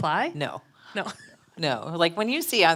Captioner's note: laughs